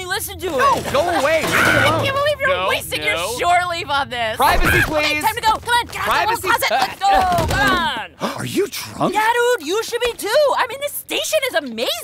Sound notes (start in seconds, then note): 4.5 shrieks; 7.8 gasps